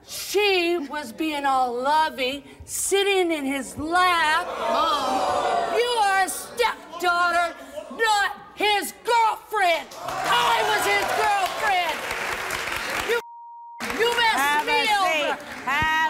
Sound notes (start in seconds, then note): 4.8 audience gasps; 9.9 audience cheers